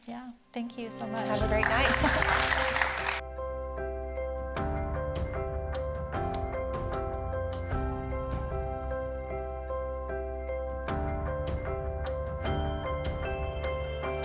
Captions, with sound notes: Yeah, thank you so much. Have a great night. (audience applauding) (melodious music)